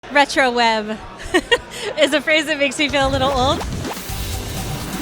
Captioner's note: laughs; upbeat synth music